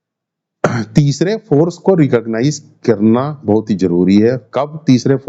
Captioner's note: sound of clearing throat